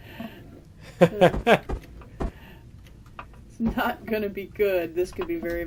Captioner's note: laughs